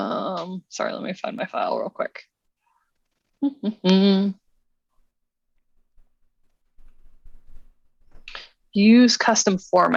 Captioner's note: humming